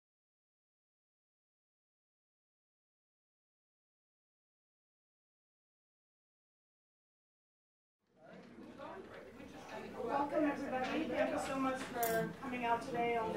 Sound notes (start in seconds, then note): 8.2 crowd chatting instinctively